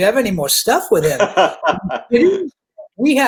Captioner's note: laughing